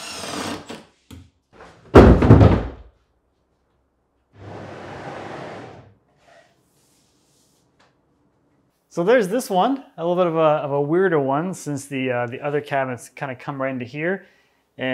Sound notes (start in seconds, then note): 0.0 drill whirring; 1.9 cabinet thudding; 4.4 cabinet whooshing